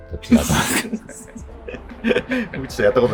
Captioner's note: laughing